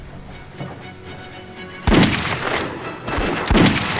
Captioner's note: gunfire